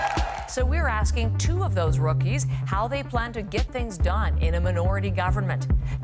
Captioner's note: cheers and Applause